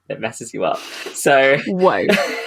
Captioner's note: laughing